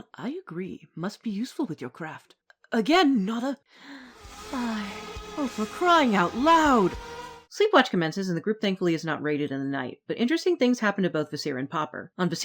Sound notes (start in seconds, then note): 3.8 swooning